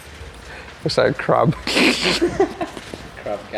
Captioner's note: laughs